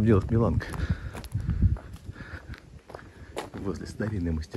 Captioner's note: footsteps sound